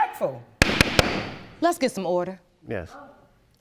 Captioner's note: banging gavel